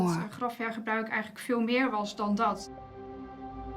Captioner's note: speaks Dutch